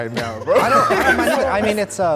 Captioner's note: group laughs